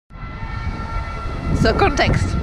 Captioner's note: sirens on the background